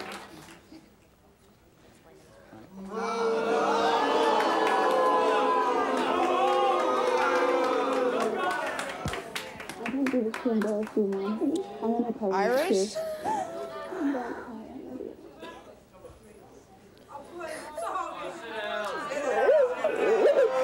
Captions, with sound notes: (audience boos) - I didn't do this to embarrass you, Mom. (murmuring) - Iris-- - Don't cry. I love you. (audience clamors)